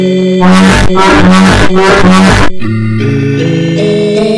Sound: horn

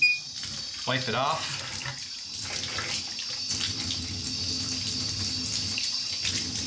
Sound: water running

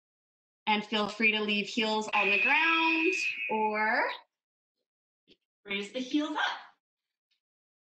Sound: alarm blares

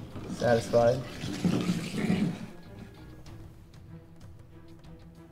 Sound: liquid sloshing

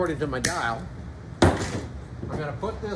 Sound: tool bangs

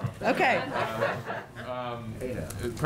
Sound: laughter

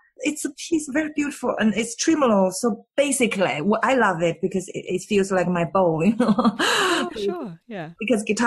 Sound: laughs

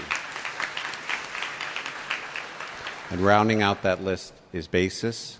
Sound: applause

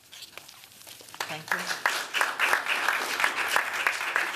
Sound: applause

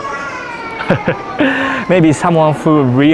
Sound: chuckles

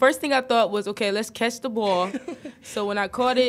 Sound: laughs

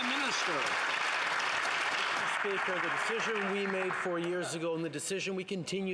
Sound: some Applause

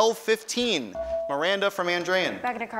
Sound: ding

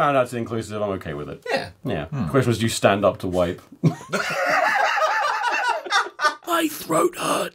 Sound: laughter

